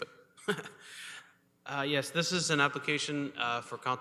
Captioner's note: chuckles